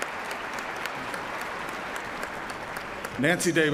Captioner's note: applause